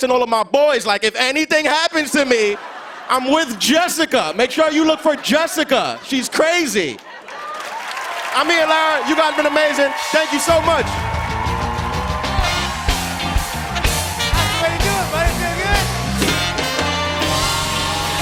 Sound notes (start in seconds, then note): 6.1 cheers and applause